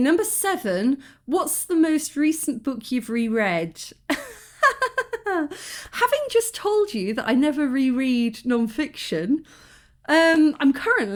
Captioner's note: laughing